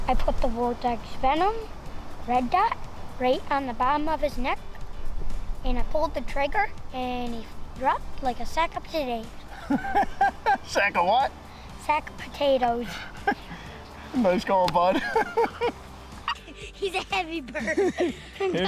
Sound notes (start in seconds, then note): 9.5 laughs